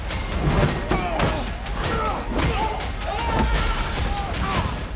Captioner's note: grunting, groaning